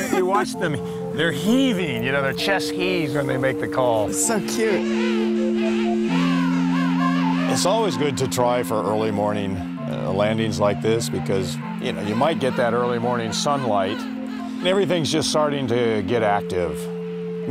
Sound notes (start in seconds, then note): 0.0 inhales deeply, blows out; 5.5 penguin calls